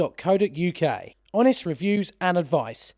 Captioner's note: voiceover